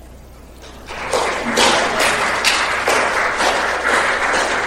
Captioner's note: applause